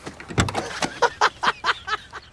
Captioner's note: laughing